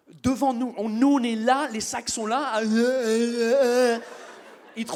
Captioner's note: drunken sounds